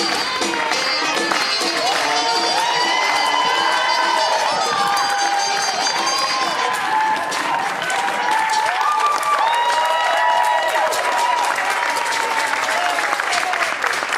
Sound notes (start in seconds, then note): 2.6 audience cheering; 10.0 audience applauding